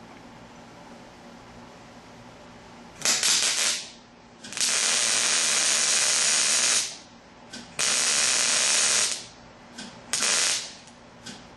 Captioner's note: welding